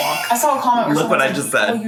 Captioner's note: laughs